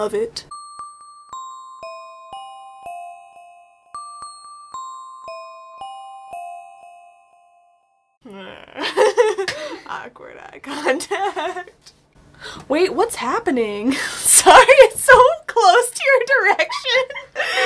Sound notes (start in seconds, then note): 1.3 outro music; 7.7 laughs; 14.1 laughs; 16.6 can't stop laughing